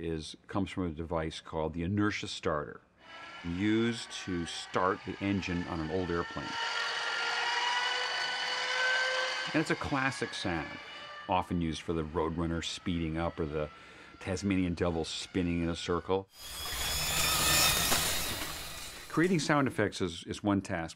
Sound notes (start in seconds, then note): 6.5 whirring; 16.4 whirring